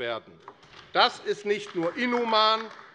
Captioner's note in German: Vereinzelter Beifall AfD